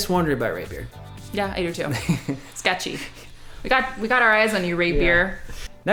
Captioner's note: laughs